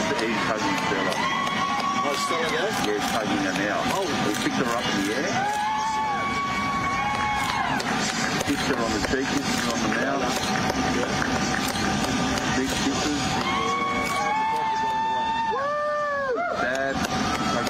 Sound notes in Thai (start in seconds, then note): 0.6 ปรบมือ; 7.7 ปรบมือ; 12.9 ปรบมือ